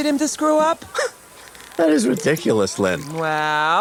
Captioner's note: scoffs